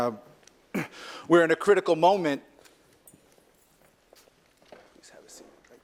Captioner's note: cough